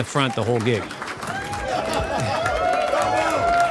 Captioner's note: audience applauding